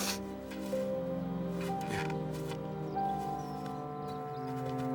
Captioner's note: Lillian sniffling